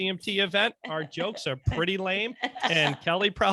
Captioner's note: laughing